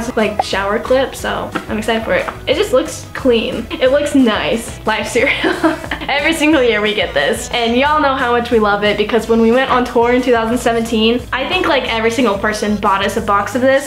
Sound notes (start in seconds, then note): 5.5 laughing